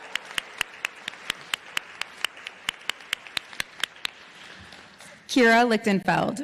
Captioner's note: applause